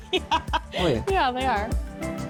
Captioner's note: laughs